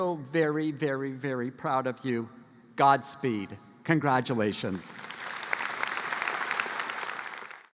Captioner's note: applause